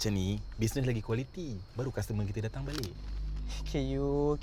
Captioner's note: in Bahasa Melayu